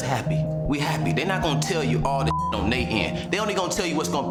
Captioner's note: beep